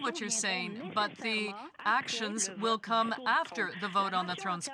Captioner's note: speaking French